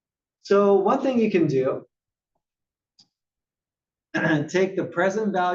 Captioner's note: cough